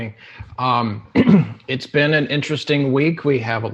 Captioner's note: clears throat